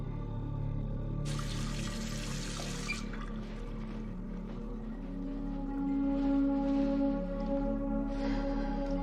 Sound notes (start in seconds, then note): 1.2 water running; 2.1 water stops; 7.0 sighing